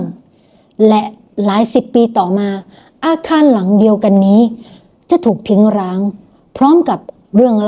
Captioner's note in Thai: เสียงสูดหายใจ